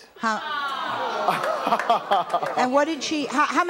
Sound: laughter

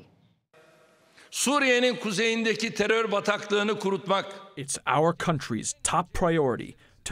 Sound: through translator

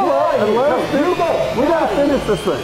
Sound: voiceover

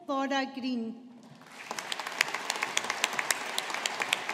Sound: audience applauding

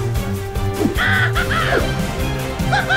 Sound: manic laughter

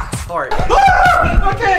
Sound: screams

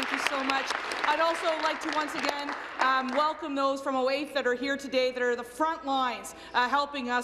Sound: applause

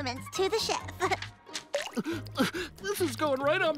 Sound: crying

